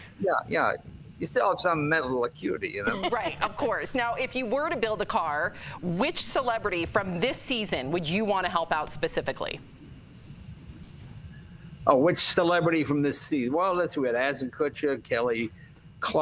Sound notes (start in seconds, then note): 2.8 laughter